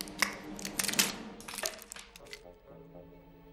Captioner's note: splintering wood